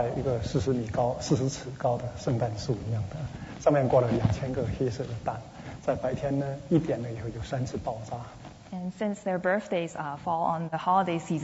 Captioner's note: speaking Mandarin